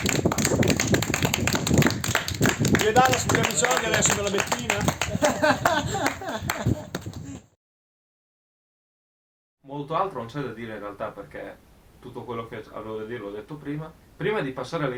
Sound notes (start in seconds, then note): 2.6 laughter; 6.4 applause